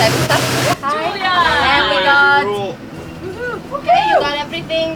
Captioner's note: overlapping chatter